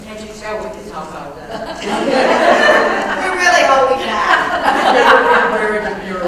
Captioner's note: laugh